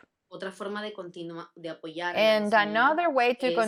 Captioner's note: speaks in foreign language